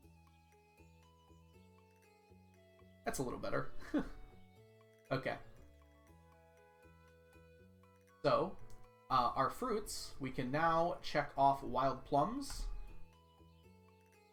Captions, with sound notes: That's a little better. (laughs) Okay. So on our fruits, we can now check off wild plums.